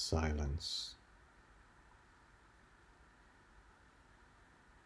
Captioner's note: silence